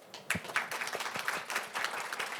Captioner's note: applause